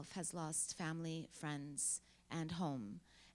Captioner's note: none